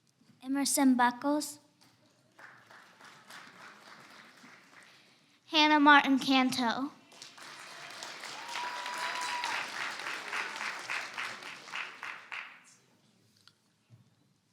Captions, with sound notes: - Emerson Buckles. (audience applauds) - Hannah Martin-Canto. (audience applauds and cheers)